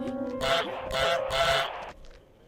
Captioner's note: honk; honk honk; honk honk honk